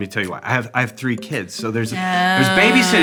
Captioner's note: moans